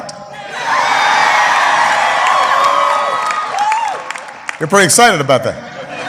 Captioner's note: applause